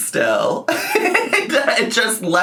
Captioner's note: laughing